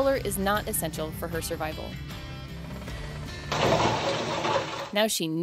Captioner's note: ceiling collapses